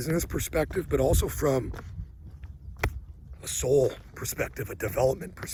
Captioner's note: thumps chest